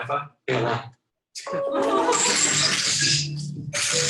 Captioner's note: electronic crinkling; light island music